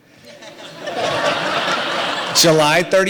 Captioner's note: audience laughter